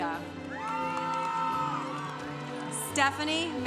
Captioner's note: congregation cheering